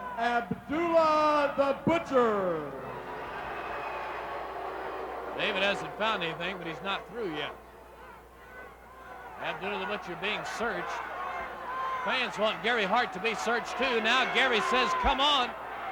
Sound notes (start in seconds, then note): 2.6 crowd booing; 2.6 crowd cheering